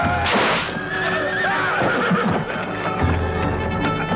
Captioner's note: spear clatters; horse neighs